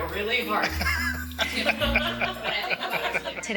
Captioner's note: laughter